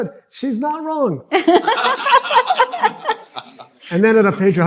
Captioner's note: laughing